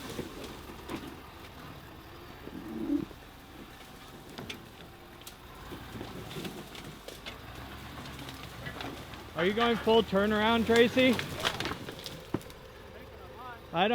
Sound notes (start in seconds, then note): 4.8 engine revving